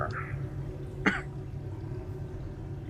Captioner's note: coughs